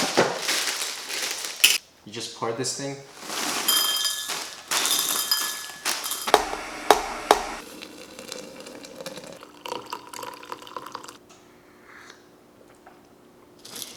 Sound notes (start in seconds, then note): 0.0 bag crumbling; 6.2 cup tapping; 8.0 water trickling; 9.6 coffee trickling; 11.7 slurping